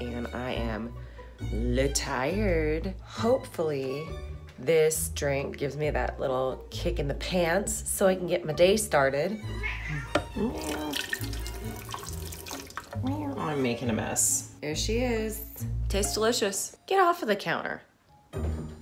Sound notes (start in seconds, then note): 9.4 meowing; 10.3 splashing